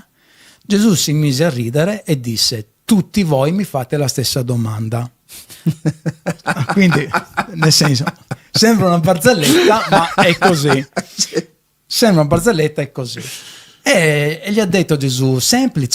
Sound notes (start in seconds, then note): 5.6 laughs